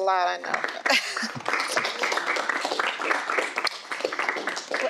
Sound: audience applauds

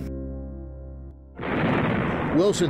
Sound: explosion booming

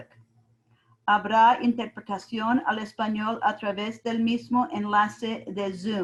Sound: speaking in foreign language

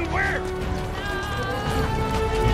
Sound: screaming

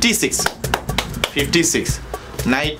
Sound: mimics cards shuffling

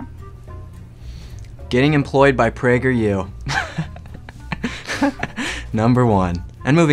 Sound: laughs

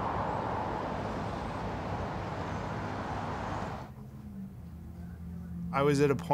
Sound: wind gusts

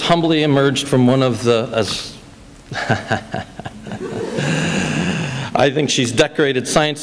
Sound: laughs

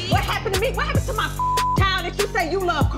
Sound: beep

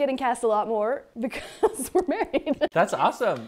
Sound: laughs

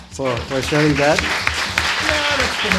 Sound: audience applauds

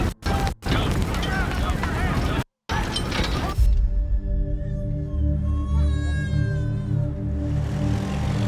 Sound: war sounds

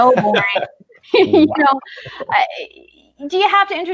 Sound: all chuckle

